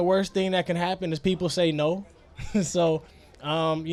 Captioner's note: laughs